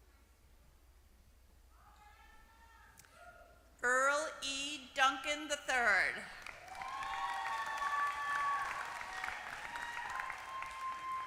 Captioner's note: applause